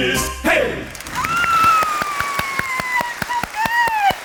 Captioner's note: cheering